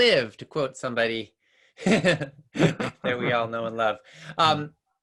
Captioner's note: laughs